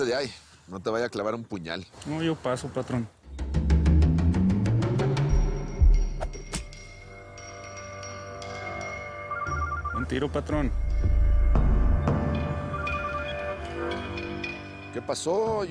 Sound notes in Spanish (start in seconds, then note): 8.7 Suena el celular